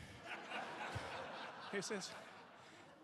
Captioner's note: audience laughing